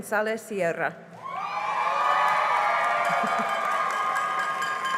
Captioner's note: cheering and applause